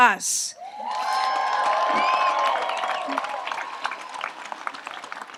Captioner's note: audience applauds and cheers